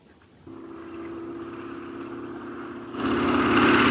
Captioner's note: Phantom buzzing